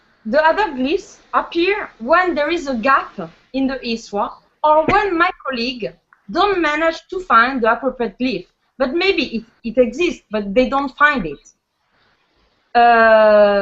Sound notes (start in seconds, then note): none